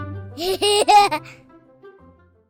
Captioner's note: laughter